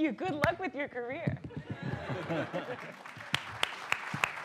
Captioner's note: applause